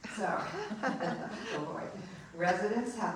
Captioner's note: laughing